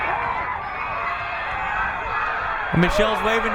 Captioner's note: crowd cheering